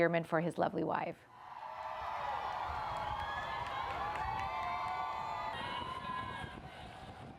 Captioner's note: crowd cheers